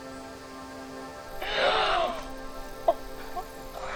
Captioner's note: girls gasping; girls softly laughing